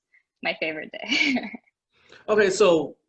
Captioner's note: laughing